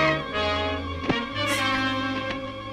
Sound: chuckles

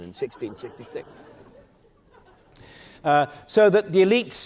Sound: audience laughing

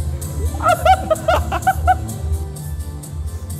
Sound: laughter

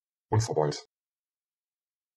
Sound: fast Pronunciation

